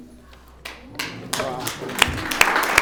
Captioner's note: audience applauds